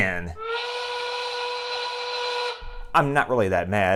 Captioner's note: angry whistle